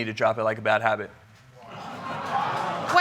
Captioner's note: audience exclaims